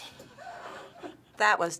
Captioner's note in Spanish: Finebros ríen